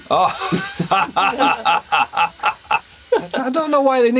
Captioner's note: Gould laughing